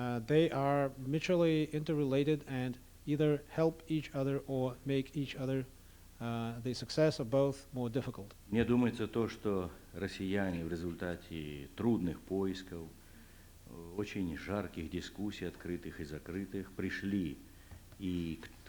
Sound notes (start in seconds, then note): 10.2 non-english speech